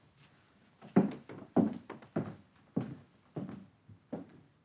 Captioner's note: shoes tapping